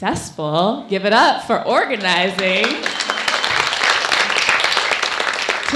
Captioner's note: applauding